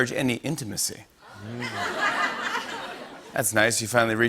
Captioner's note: laughter